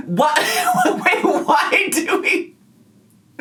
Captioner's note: laughing